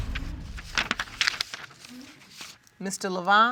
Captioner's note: paper rustling